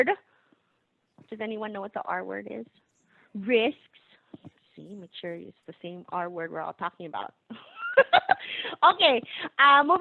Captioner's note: laughing